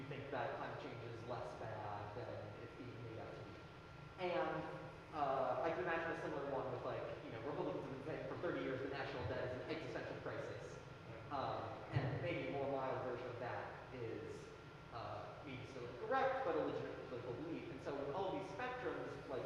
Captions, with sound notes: You'd think that country is less. (speaking softly) And I think that's just some of the more. (speaking softly) For 30 years, the national debt is an (speaking softly) process. And a more modern version of that is, things like religion and political beliefs. And so, with all these factors